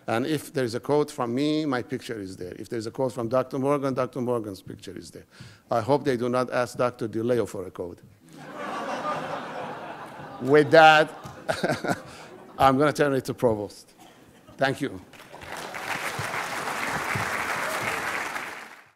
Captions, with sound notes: And if there's a quote from me, my picture is there. If there's a quote from Dr. Morgan, Dr. Morgan's picture is there. I hope they do not ask that to DiLeo for a quote. (laughing) With that, I'm gonna turn it to Provost. Thank you. (audience clapping)